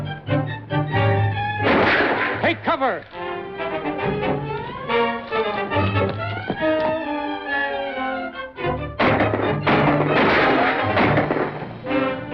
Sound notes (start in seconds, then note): 1.6 gunshot; 9.0 gunshots